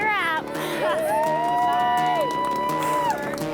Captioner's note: all cheer